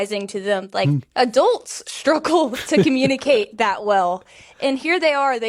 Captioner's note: laughs